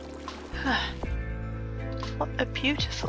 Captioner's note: sigh